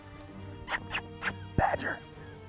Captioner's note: smacking